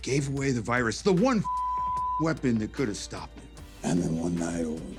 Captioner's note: beep